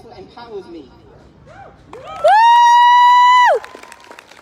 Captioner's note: whooping; applause